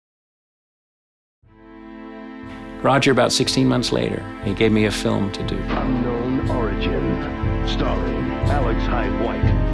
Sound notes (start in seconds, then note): 5.9 voiceover